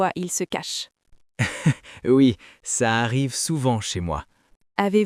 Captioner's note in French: rire